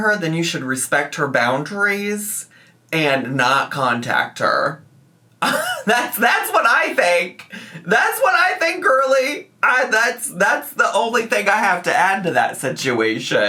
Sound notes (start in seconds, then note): 5.4 scoffs